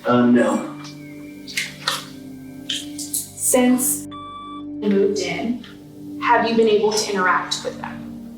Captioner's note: beep